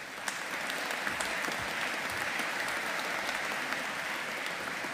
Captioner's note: audience applauding